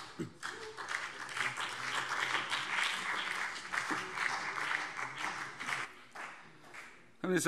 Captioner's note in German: Beifall BÜNDNIS 90/DIE GRÜNEN und vereinzelt CDU